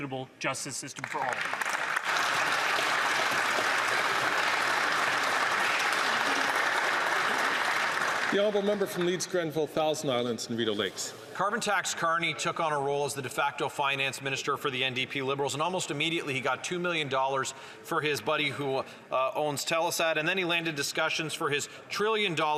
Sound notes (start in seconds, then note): 9.5 some Applause